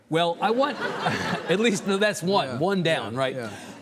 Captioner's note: audience laughing; chuckles